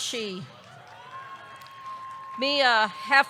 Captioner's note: audience cheering; audience clapping